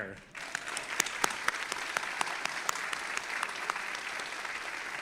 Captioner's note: audience applauding